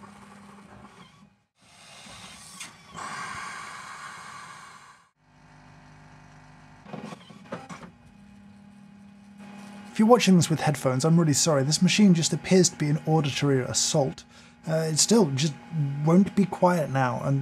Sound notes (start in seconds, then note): 0.0 coffee machine whirring; 1.6 coffee machine hissing; 5.7 coffee machine humming; 14.4 coffee machine whirring